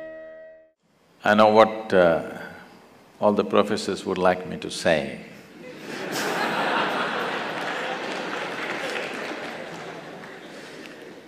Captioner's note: laughter/Applause; 笑聲/掌聲